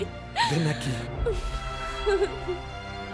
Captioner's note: Caridad ríe